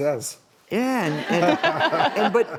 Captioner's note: laughing